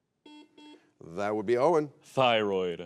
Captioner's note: buzzer beeps